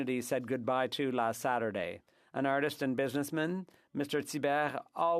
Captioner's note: french